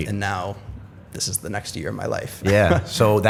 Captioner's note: chuckle